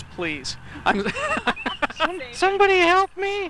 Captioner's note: laughs